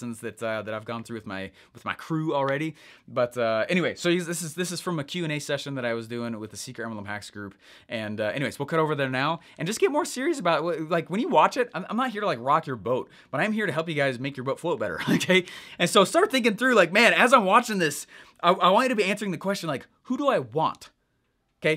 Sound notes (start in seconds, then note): 15.0 laughing